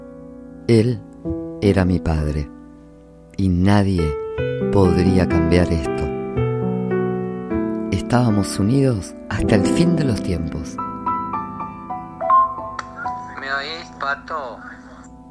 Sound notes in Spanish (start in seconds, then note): 12.2 sonido de mensaje de whatssap